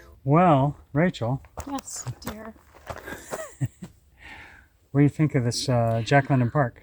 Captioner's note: chuckles